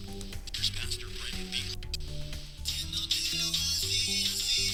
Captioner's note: radio channels coming in